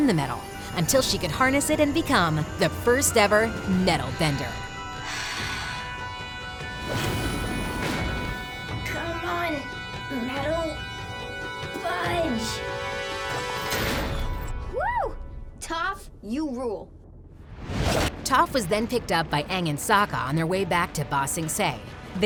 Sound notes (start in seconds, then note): 5.0 gasping